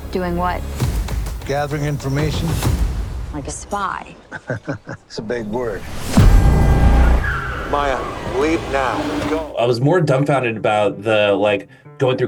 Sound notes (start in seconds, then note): 4.2 chuckles; 5.3 car honking; 7.3 car screeching